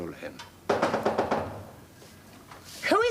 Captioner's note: knocking